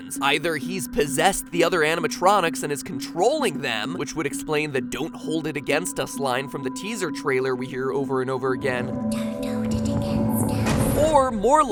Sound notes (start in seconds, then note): 9.1 eerie child whisper